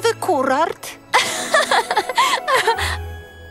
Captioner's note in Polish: śmieje się